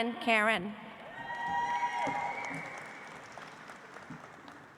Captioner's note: audience applauds